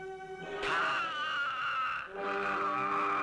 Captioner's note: groaning